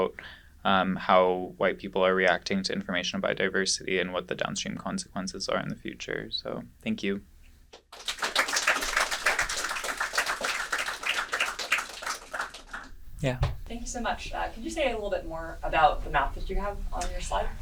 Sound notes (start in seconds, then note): 7.8 applause